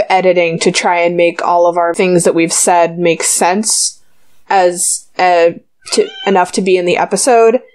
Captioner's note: meow